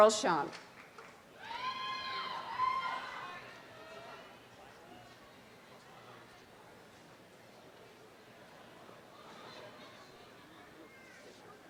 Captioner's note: audience cheers and murmurs